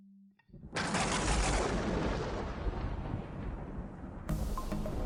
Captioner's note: thunder crashing; moves into upbeat music